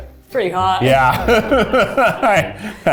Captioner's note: laughing